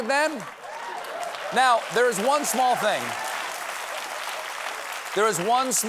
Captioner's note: applause